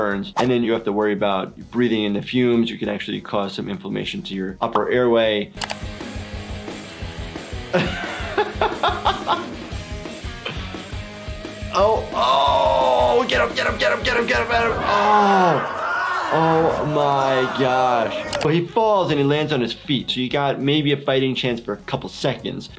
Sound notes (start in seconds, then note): 5.5 upbeat rock music; 5.6 computer mouse clicks; 7.7 laughing